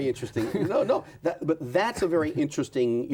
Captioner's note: laughs